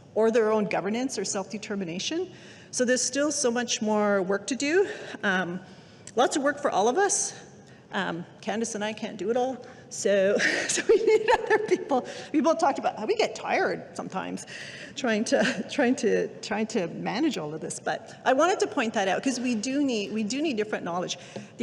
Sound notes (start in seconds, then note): 11.6 laughing